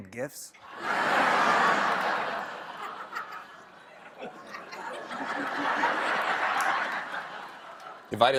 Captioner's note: laughter